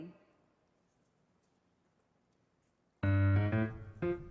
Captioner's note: mouse clicking; upbeat piano music